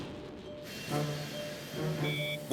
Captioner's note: jets whir